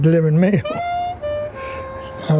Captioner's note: chuckles